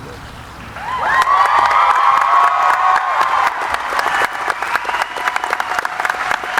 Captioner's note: audience applauding; cheering